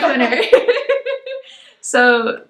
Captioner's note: both laugh